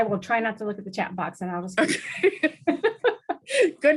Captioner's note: laugh